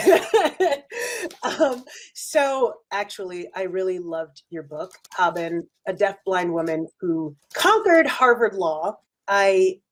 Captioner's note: laughs